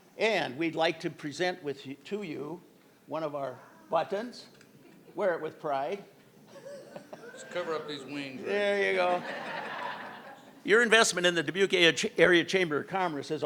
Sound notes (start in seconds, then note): 9.8 crowd laughing